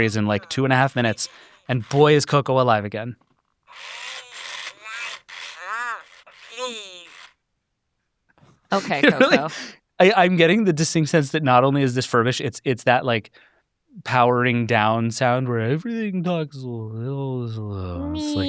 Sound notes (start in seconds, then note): 3.7 machinery whirring; 3.8 Coco babbling